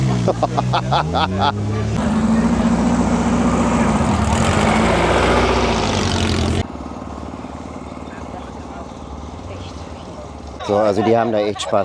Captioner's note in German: gelächter